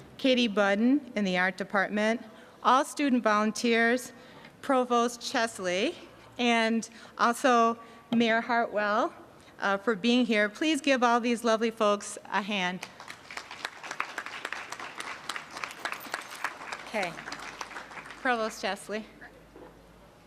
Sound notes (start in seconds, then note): 12.8 applause